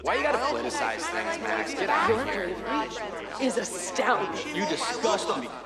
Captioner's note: users clamor